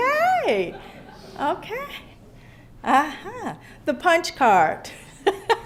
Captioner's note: laughter